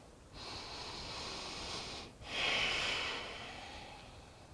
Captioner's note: inhaling and exhaling